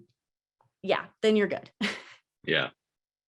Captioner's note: chuckles